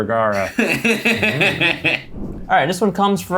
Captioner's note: laughs